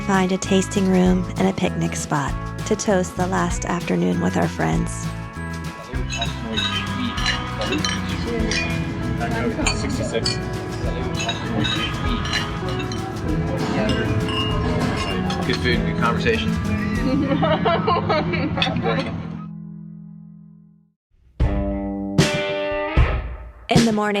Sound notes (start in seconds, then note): 9.4 glasses clinking; 16.9 laughing